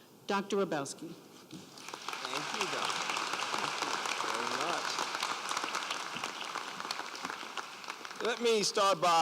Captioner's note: applause